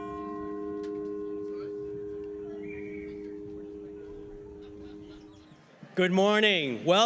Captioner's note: audience chatting indistinctly